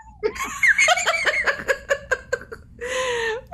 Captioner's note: laughing